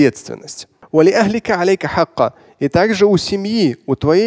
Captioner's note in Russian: Говорит на арабском